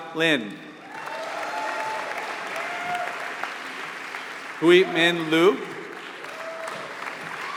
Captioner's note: applause